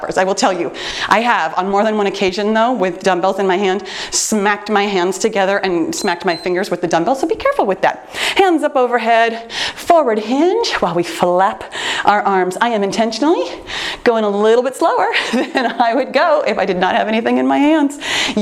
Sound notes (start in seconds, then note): 5.9 timer beeps